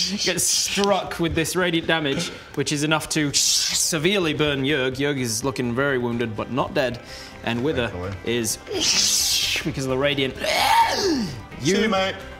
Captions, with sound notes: gets struck with this radiant damage which is enough to severely burn Yurg Yurg is looking very wounded but not dead - and Wither is - thankfully *tschhcchhhh* because of the radiant *hrggagrhhghahh* see ya mate!